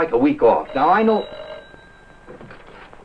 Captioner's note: phone ringing